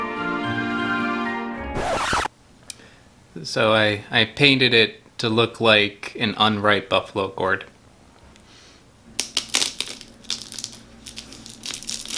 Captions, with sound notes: (record scratches) So I painted it to look like an unripe buffalo gourd. (gourd crackles)